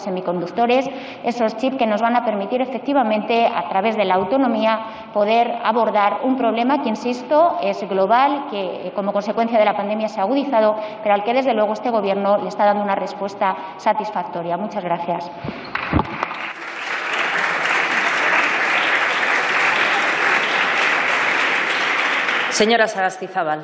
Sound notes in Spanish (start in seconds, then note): 18.6 Aplausos